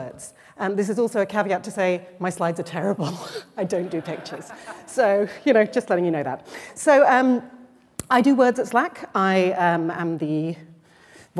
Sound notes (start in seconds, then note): 3.7 laughter; 3.7 laughs